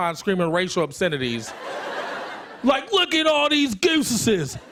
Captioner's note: country accent